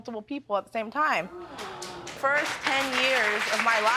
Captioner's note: audience clapping